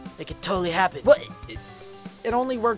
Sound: twilight stammers

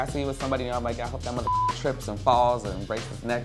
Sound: beep

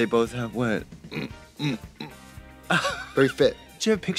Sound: Trixie grunting

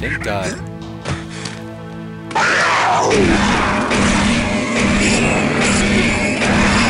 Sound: gunfire and monster roars

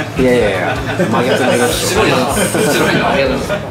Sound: laughter

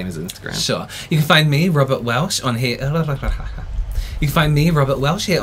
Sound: stutter

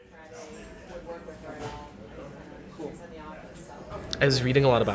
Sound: soft chatter in the background

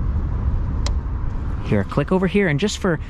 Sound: bike clicking

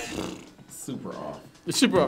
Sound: buzzer blares; blows raspberry

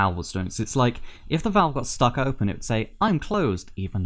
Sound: cheery indicator light voice

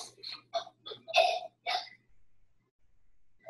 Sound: child coughs

